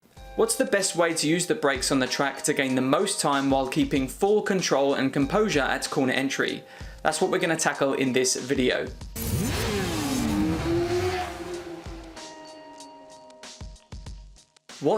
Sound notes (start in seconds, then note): 9.1 motorcycle engine revving; 12.0 upbeat music